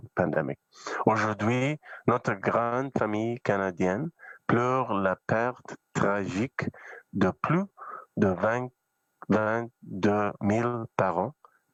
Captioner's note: speaking French